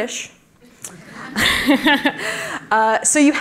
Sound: laughter

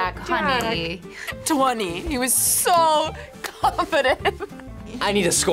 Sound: laughs

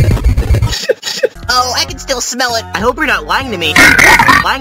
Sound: sniff

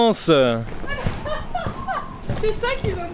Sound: laughing

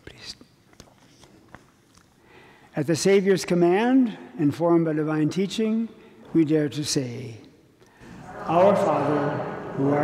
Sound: priest whispering

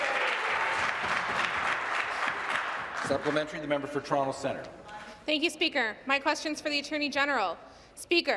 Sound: applause

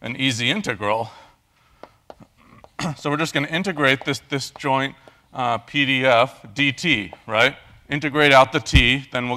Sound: cough

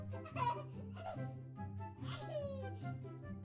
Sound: toddler sounds

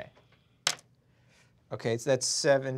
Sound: die clatters

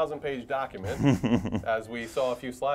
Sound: laugh

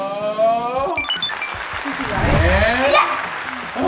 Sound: high-pitched beeps; applause; drum roll

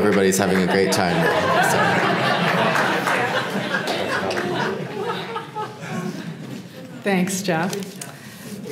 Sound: laugh

